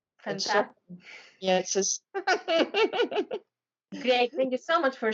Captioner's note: laughing